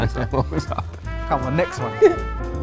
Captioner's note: laughing